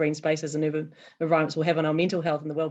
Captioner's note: none